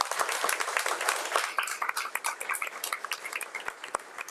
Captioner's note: audience applauds